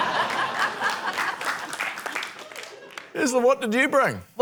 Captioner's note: applause